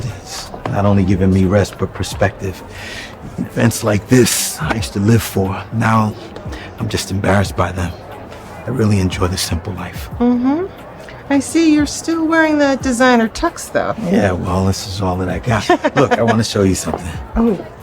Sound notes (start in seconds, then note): 15.6 mother laughing